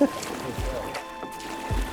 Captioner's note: laughs